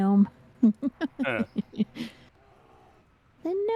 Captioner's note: laughter